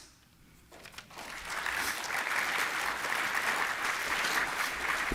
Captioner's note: applause